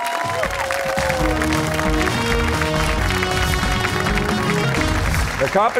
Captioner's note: cheers and applause